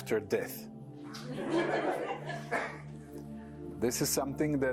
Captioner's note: laughter